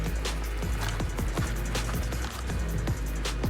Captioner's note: footsteps crunching